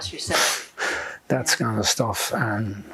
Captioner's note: laughing